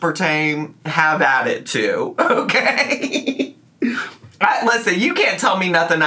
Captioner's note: laughs